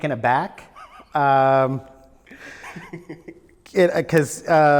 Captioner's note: laughs